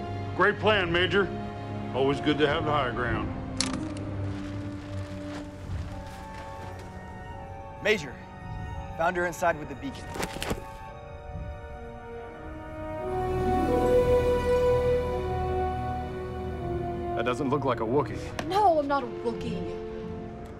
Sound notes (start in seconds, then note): none